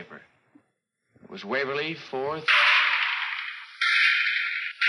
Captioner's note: gunshots banging